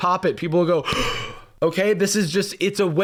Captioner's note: gasps